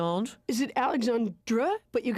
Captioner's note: in French accent